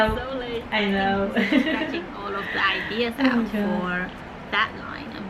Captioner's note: nervous laugh